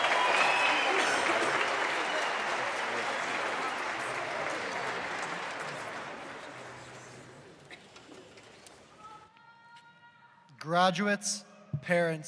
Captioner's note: cheers and applause